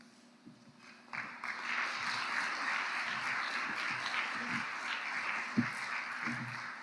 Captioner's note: audience applauding